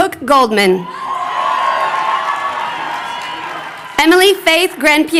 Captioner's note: crowd cheering